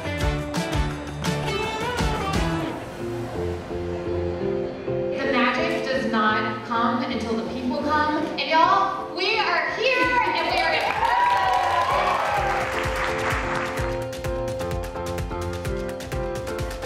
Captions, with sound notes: - The magic does not come until the people come. And, y'all, we are here and we are in person. (audience cheering) (upbeat music)